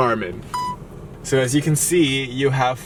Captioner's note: beeps